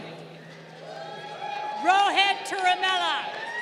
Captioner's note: crowd cheering